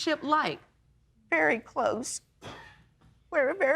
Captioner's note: man in audience coughs